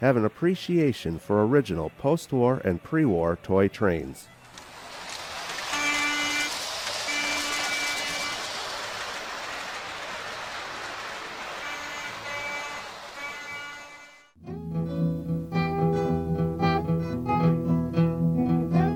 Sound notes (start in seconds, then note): 5.6 horn blares